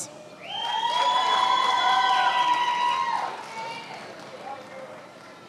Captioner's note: attendees applauding